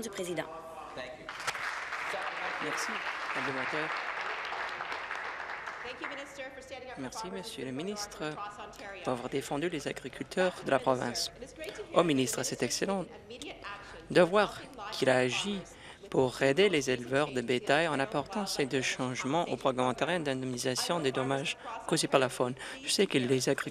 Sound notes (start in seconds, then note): 4.2 voice trailing; 5.7 applause